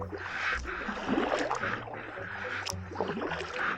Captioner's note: paddling